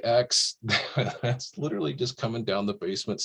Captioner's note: laughs